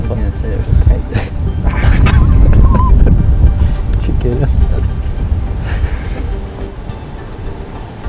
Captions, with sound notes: [Sound of laughter] Did you get him? [More laughter]